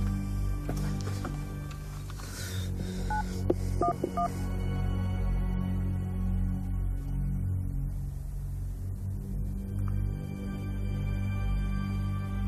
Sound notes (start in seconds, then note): 3.8 dialing beeps on phone; 7.1 ominous music